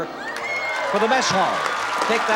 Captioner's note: applause